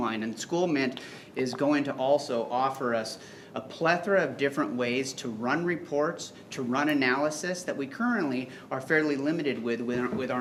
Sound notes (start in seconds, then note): none